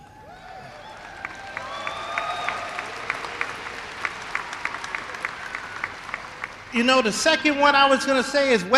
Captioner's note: applause